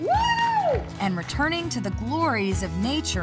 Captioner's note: cheering, whooping